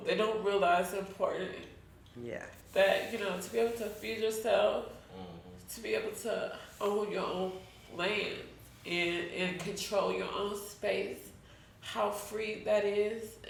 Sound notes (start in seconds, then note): none